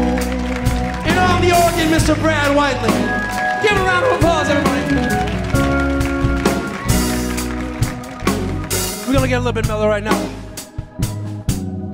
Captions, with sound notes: And on the organ, Mr. Brad Whiteley. Give a round of applause, everybody. (audience applauding) We gonna get a little bit mellow right now.